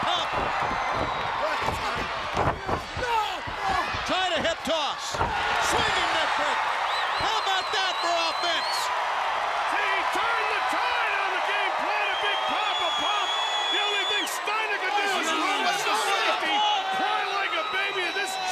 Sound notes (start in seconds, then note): 1.4 crowd chatter; 10.0 crowd cheering